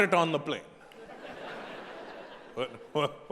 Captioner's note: audience laughing